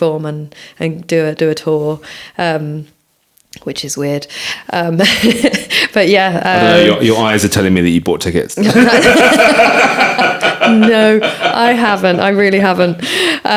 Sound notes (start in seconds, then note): 8.6 all laughing